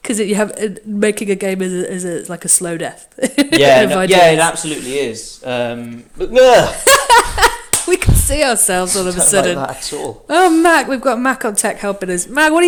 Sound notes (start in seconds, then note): 6.2 shouts in surprise